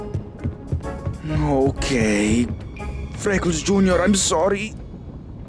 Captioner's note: sighs